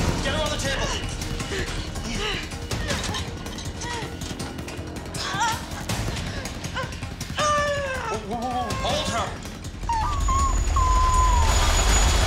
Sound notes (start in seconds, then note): 2.7 energetic drum music; 5.1 Lydia groans; 10.0 Lydia whimpers